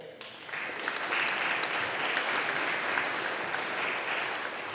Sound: audience applauding

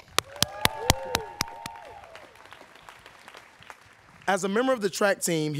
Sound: students cheering

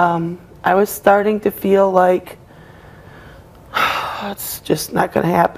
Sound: sighs

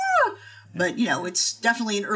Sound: woman squealing

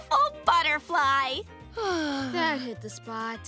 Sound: sighing

